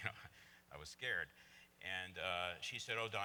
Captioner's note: laughs